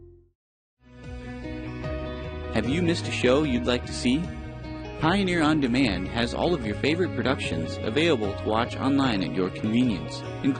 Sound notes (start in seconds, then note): 0.8 uplifting electronic music; 2.0 voiceover